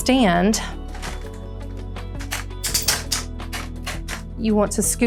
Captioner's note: walker rattling